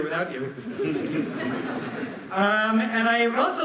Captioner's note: laughter